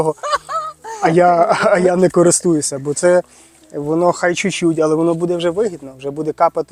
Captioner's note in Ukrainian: сміх